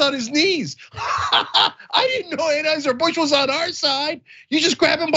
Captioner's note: laugh